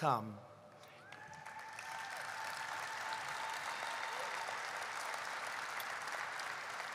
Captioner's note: applause